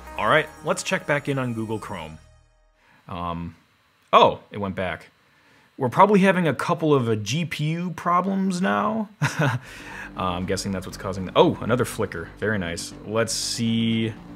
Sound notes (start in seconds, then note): 9.2 chuckles; 9.6 tense electronic music